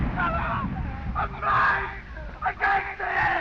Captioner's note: screaming